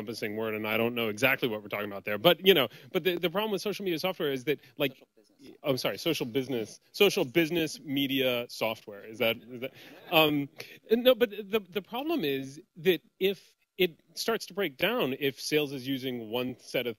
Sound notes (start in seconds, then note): 10.1 laughter